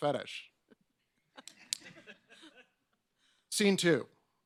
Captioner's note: laughs